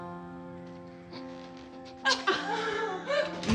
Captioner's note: laughs